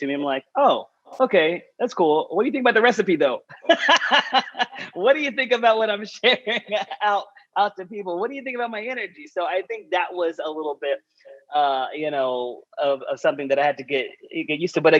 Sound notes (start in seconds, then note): 3.5 laughs